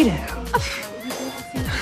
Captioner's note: scoffs